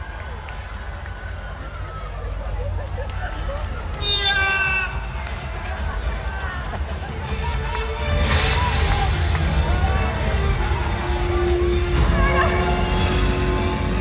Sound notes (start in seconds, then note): 4.1 man yelling; 7.7 exciting, dramatic music